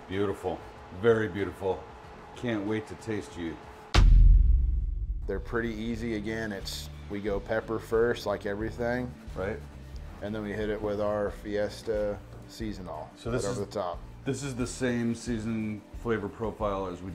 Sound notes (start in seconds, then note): 3.9 text thuds